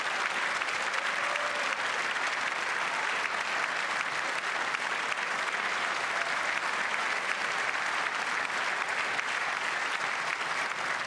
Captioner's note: cheers and applause